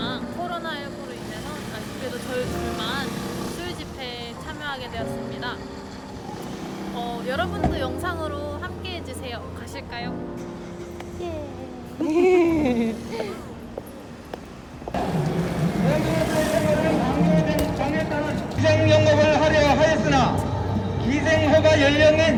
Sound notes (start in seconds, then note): 11.2 haha